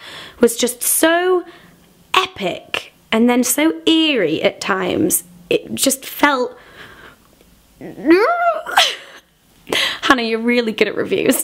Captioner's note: squeal